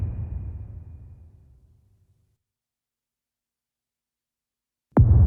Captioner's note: dramatic sound